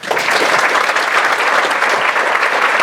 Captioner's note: applause